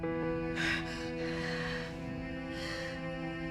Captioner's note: gasps